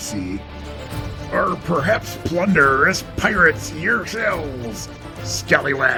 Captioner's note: pirate accent